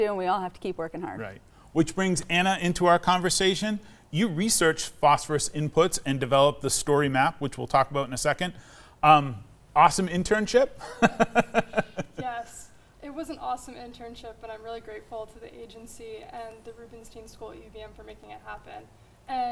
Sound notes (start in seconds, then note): 10.8 laughs